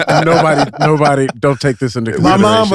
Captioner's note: group laughs; speaks faintly